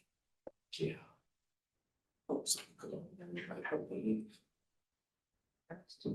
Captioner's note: board members chattering